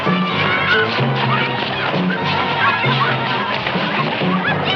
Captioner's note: children clamoring